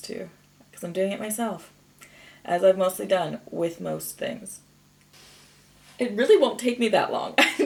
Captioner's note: inhales softly; chuckles